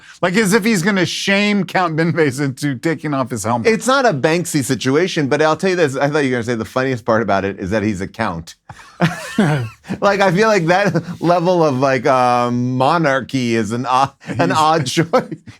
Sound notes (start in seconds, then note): 8.6 laughs